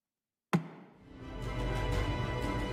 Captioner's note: gavel bangs once